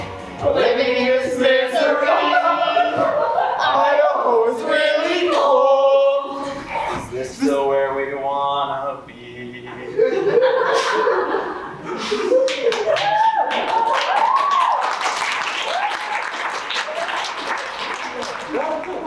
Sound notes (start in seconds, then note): 9.9 audience laughs; 12.4 audience applauds